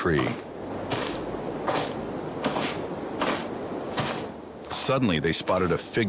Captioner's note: undergrowth crunching